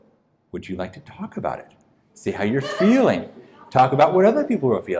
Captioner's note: laughing